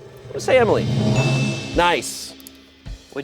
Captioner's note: bell dings